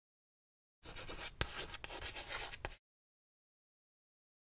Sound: chalk scratching

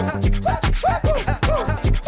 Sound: woo woo

